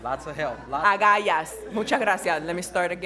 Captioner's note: speaking in foreign language